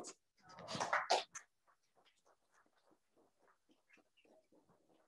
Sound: crowd applauds

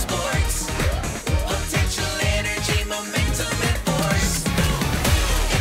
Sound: boom!

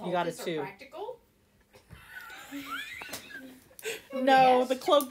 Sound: laughter

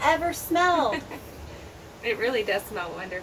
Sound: woman giggles

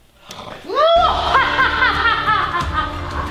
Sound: laughter

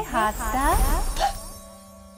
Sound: magical sounds

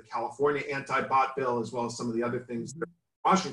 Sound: glitch

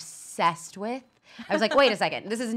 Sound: laughs

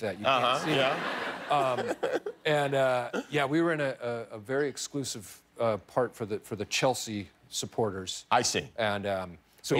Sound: laughter

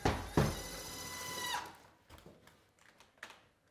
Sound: drill buzzing

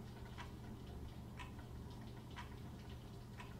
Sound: clock ticking

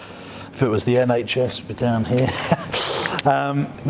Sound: laughs

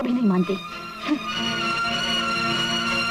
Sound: scoffs

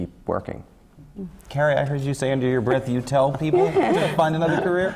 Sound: laugh

